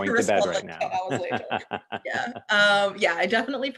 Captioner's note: laughter